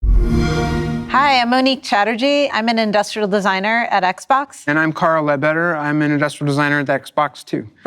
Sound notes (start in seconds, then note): 0.0 xbox sound